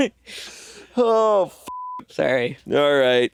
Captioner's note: beeping